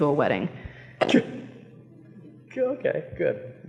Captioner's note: chuckles